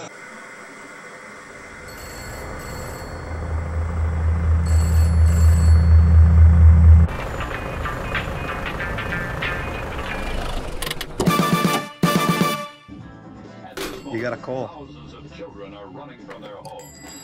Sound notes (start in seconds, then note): 1.8 phone rings; 3.1 car approaches; 4.6 phone rings; 7.0 car approaches; 11.2 funk music; 16.2 bell on the door rings